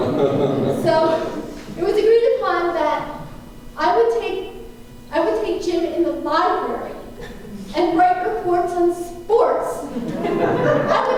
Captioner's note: laughter